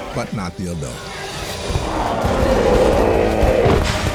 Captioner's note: hissing; roaring